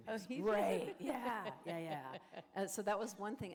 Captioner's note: laughter